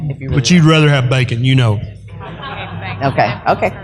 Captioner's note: laughter